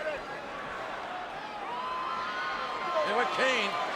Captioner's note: crowd cheering